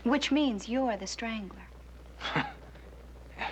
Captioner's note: chuckles